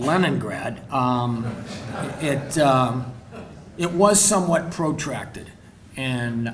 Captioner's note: crowd laughing